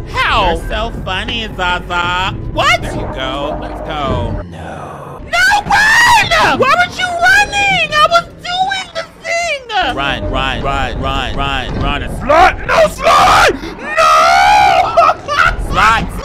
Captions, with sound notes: How? You're so funny, Zaza. What? There you go, let's go. No, no, no run! Why weren't you running? I was doing the thing. Run, run, run, run, run. No! Slide! (screams) No! Slide, slide!